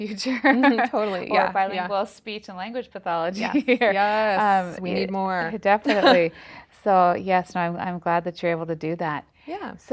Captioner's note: general agreement banter